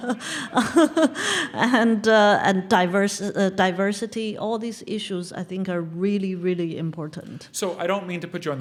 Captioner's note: laugh